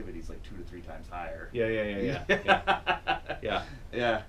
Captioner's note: laughs